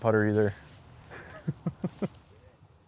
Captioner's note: laughs